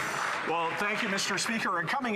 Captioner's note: some Applause